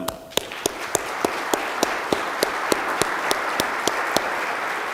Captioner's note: audience applause